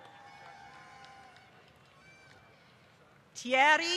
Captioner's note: applause